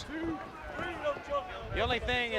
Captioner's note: crowd chatter